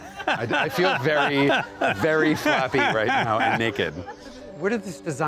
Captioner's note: background Laughter